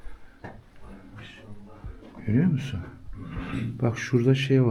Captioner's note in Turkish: boğazını temizler